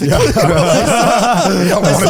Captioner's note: all laughing